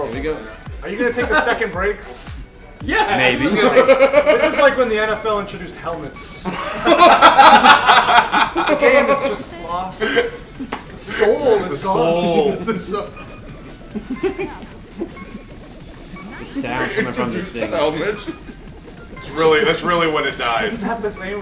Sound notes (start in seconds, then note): 10.8 laugh